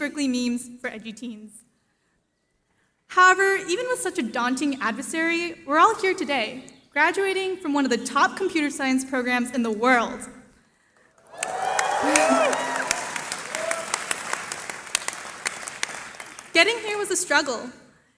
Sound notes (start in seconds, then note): 11.2 cheering